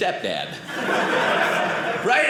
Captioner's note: audience laughing